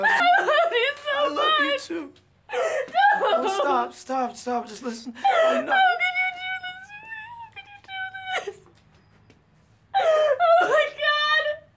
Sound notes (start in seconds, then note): 2.4 sobbing; 5.7 sob